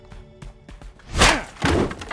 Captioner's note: crack